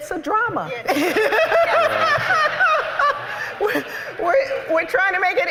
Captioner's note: laughter